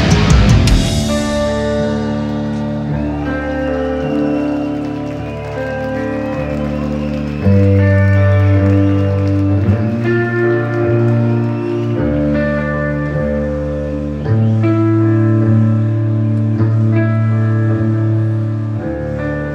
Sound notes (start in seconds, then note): 3.9 applause!